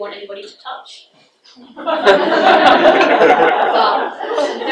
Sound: audience laughs

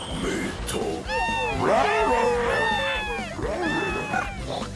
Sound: all cheer

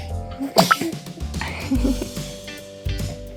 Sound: sneezing sound

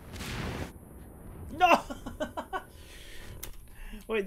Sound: laughing

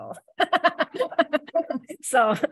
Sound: laughter

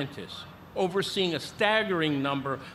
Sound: none

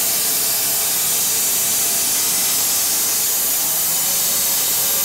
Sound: whirring continues

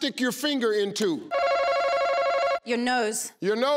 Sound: ringing

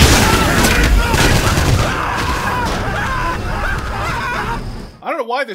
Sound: soldiers screaming in pain

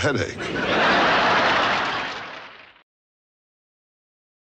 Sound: audience laughs

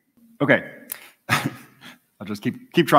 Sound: laughter

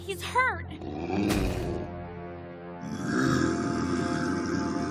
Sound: creature growling

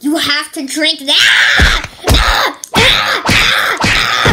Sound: screaming

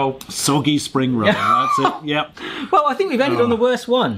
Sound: laughs

